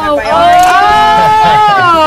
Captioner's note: cheering